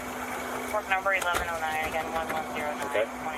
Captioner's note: radio chatter